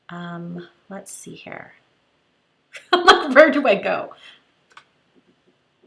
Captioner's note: laughs